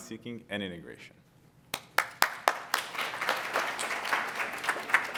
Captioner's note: applause